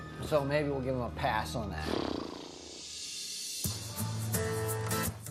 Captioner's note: vibrates lips